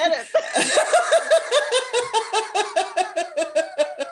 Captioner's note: laughter